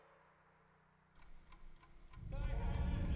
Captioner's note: clock ticking